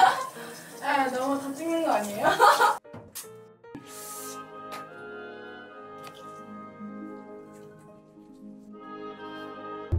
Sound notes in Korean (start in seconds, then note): 2.2 웃음